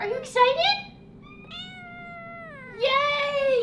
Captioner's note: cat meows